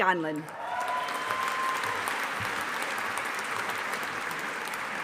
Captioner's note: audience applauding